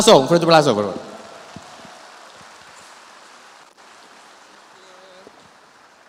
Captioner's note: speaks in Spanish; audience applauds